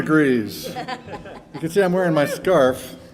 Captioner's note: band members laughing